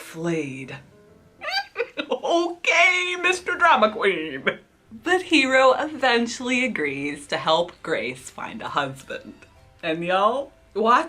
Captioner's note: laughs